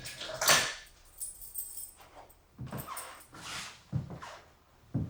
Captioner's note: keys jingling